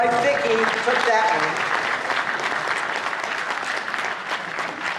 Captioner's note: applause